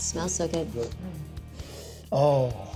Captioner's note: sniffs